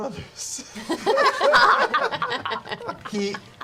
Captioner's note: laughter